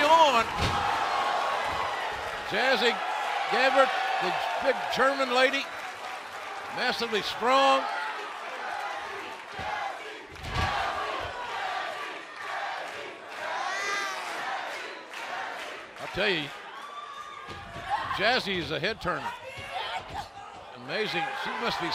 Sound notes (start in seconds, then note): 10.7 fans chanting